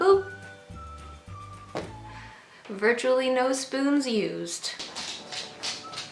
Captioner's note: dogs feet on hardwood floor